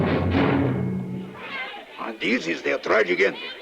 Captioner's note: children chattering